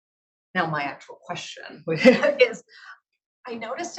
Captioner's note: laughs